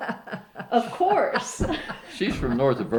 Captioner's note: laughs